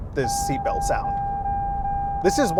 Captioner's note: alert dinging